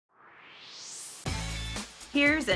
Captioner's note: swoosh